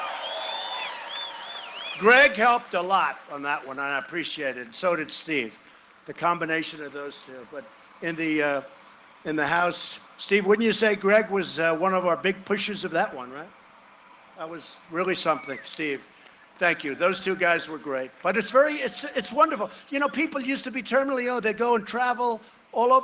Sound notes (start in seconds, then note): 5.8 cheering and applause